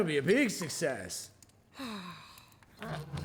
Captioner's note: sighs; begins humming